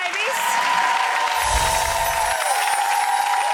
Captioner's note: applause